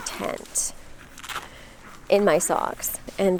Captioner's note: tent unzipping